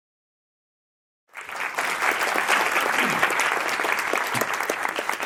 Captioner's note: audience applauds